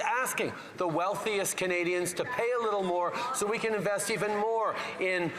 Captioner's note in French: voix de l'interprète